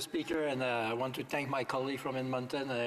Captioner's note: speaking French